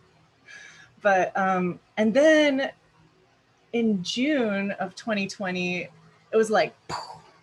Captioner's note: poof